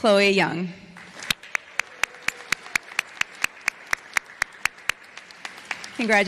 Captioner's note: applause